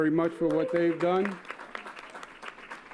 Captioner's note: applause